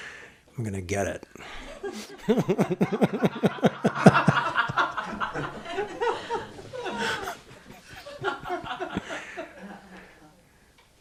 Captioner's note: laughter